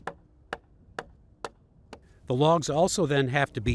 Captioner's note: wood club thudding